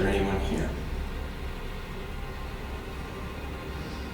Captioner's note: faintly speaking